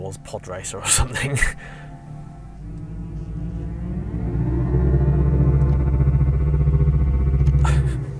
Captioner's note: car EV Rev Sounds